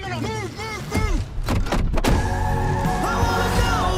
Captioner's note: tires screeching